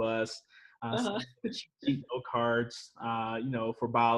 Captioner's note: chuckles